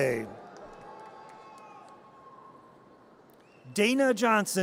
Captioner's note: audience cheers